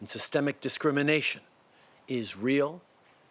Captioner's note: speaking French